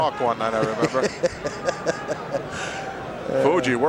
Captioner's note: Pat laughing